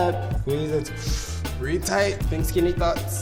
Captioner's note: inhales forcefully